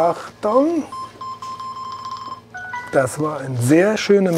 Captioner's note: beeps